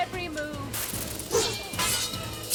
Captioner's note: metal clashing; whoosh